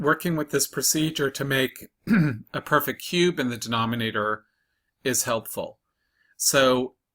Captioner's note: cough